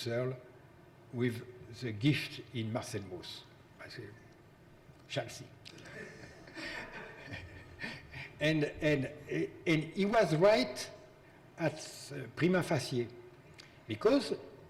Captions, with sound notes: in Husserl with the gift in Mauss. I say Chelsea (laughs), and he was right at prima facie, because in most,